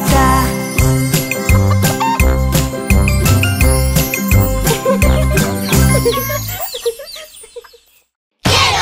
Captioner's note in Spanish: Música Alegre; Risas